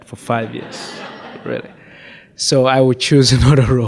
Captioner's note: audience laughs